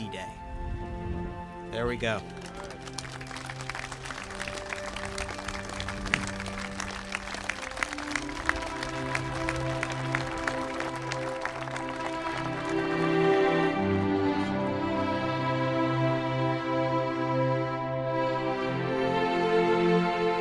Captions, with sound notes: recognizing all those who led the way on D-Day. There we go. (spectators applauding) (pensive orchestral music)